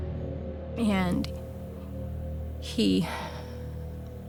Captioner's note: breathes shakily